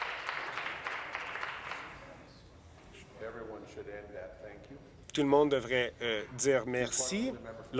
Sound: voice trailing; applause

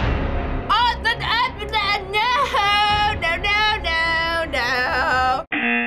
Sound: speaks gibberish; buzzer

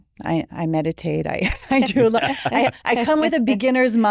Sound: group laughing

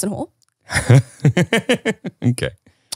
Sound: laughing

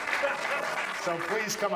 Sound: audience applauds; audience laughs

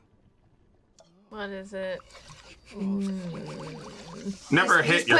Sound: groans

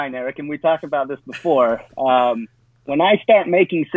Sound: chuckles

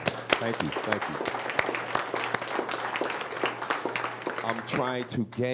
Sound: audience applauds

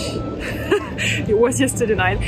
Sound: laughs

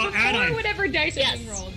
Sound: group chattering

